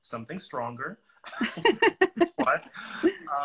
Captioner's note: laughing